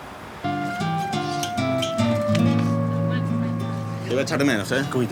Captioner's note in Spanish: Oleaje